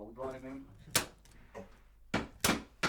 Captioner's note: popping